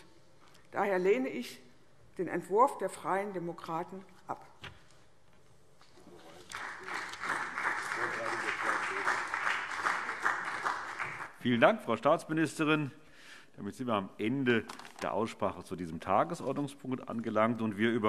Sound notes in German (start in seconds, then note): 4.6 Beifall CDU und BÜNDNIS 90/DIE GRÜNEN